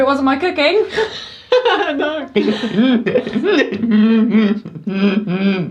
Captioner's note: Ryan laughs maniacally